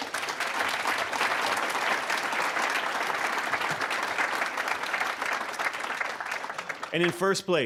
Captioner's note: applause